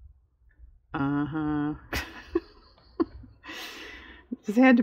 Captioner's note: laughs